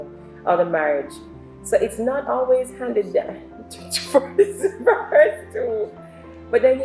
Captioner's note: laughs